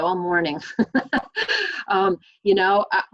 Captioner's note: laughs